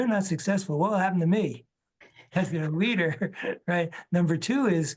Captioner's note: laughs